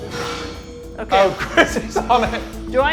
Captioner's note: alarm blaring; laughing